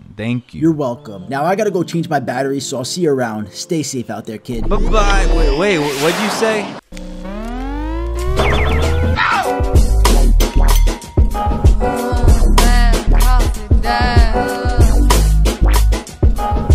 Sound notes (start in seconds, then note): 7.0 electronic noises; 10.0 upbeat music